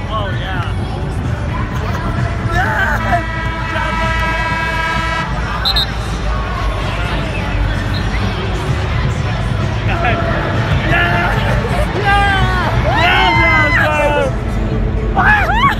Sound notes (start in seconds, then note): 5.6 whistles; 15.2 cheering